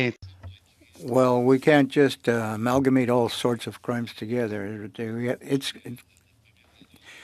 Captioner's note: speaking French